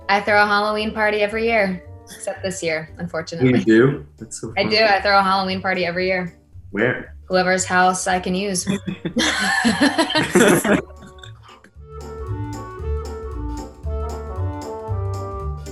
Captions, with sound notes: - I throw a Halloween party every year, except this year, unfortunately. - You do? - I do I throw a Halloween party every year. - Where? - whoever's house I can use. (group laughing) (playful, cheery music)